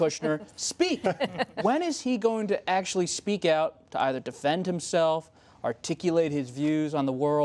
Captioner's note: laughter